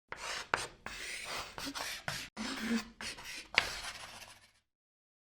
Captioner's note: chalk writing on a chalkboard